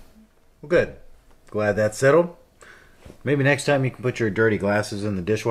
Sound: none

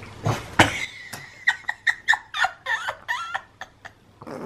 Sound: laughter

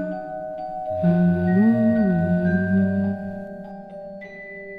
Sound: humming

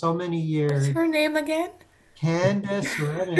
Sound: laughs

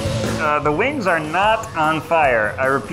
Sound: mimics radio tech

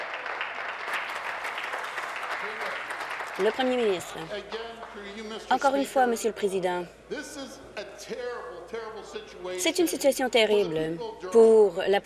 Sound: applause

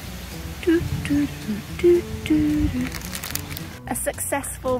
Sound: hums theme

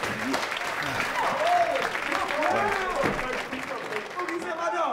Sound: audience applauding

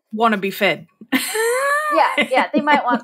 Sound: laughing

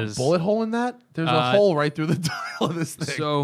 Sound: laughter

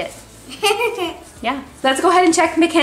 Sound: child laughs

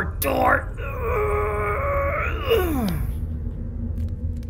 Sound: grunting

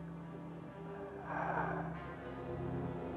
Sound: exhales

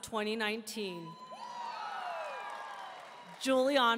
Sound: audience cheering

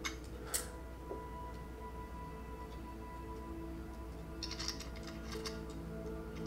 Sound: somber music; flask rattling

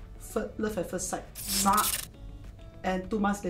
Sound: sparks sound

